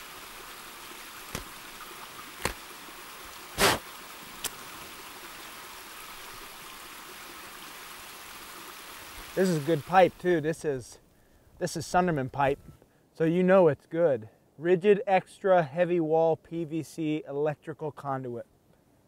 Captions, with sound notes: (blowing) - This is good pipe too. This is Sunderman pipe. So you know it's good. Rigid, extra heavy wall PVC, electrical conduit.